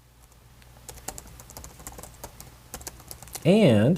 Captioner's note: typing